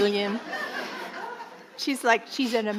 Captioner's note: audience laughing